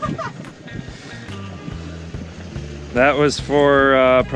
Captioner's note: laughs